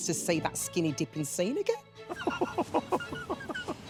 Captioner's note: laughs